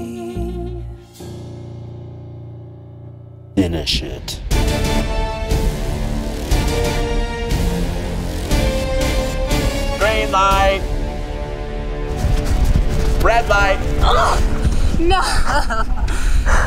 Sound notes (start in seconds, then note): 6.5 intense music begins; 14.0 grunting